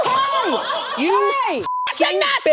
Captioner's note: audience laughs; beep